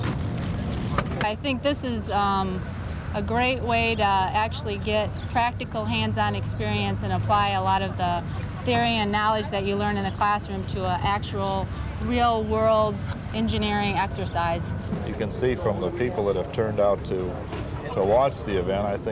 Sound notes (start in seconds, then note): 0.0 birds chirping; 0.0 people shuffling about; 5.4 car engine running